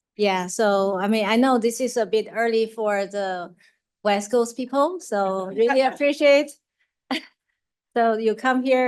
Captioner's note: laughs